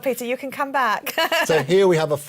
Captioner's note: laughter